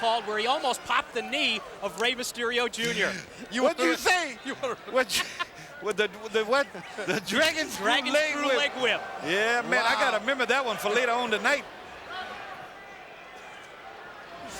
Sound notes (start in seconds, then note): 4.8 laughs; 5.3 commentators laughing